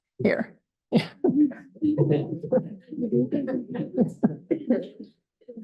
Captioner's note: audience laughter